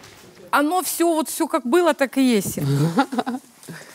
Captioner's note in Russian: смеется